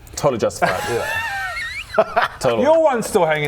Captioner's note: judgemental laughter